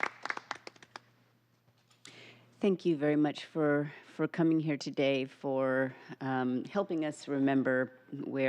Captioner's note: applause